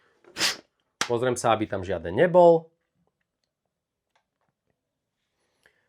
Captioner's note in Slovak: smrkanie